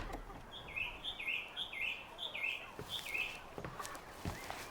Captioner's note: birds chirping